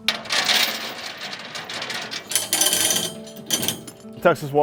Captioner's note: chain clanging